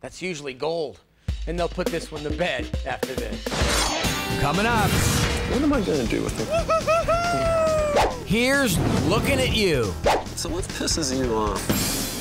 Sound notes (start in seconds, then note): 3.6 upbeat music; 6.4 laughter